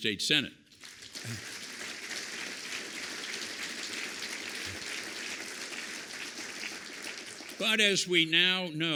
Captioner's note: applause